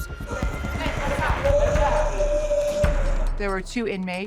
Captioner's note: groaning